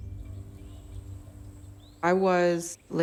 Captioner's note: birds chirping